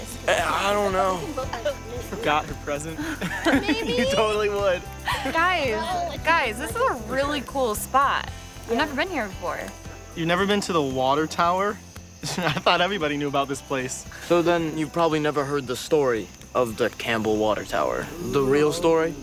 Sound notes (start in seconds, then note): 1.0 teenagers giggling; 3.5 group laughs